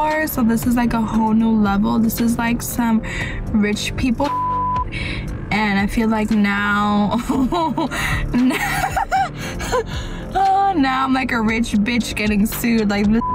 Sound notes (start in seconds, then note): 4.2 beep; 7.2 laughs